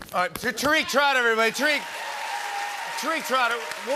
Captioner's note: cheers and applause